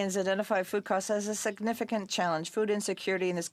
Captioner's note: speaking French